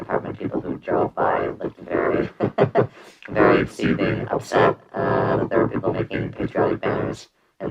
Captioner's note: laughs